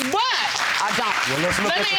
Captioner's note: audience clapping